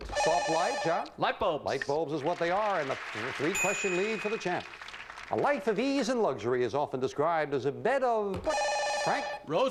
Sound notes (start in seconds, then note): 4.2 audience applauding